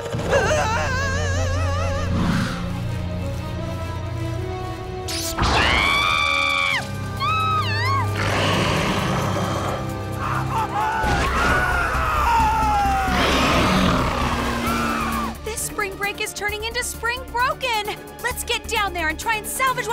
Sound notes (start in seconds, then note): 3.3 shrieking